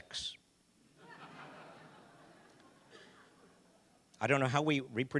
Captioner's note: audience laughing